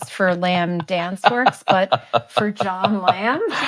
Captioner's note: laughing